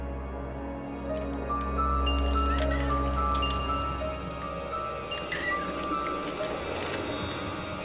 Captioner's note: water pump squeaking, water splashing